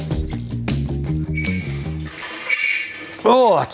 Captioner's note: squeaking